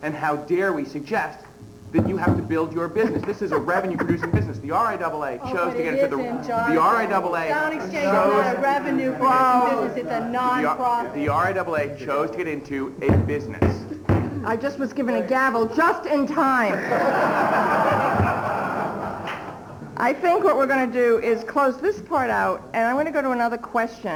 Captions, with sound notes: And how dare we suggest that you have to build your business. This is a revenue producing business. The RIAA chose to get into the -- Oh, but it isn't, John. The RIAA chose -- Sound exchange is not a revenue producing business. It's a non-profit. The RIAA chose to get into a business. I just was given a gavel just in time. [laughter] I think what we're going to do is close this part out, and I'm going to go to another question.